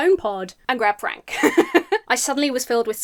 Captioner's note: laughs